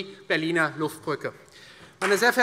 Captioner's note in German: Beifall Freie Demokraten, CDU, BÜNDNIS 90/DIE GRÜNEN und SPD